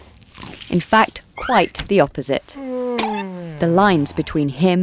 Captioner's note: Samson yawns